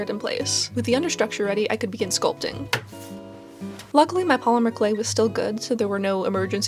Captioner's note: light thunk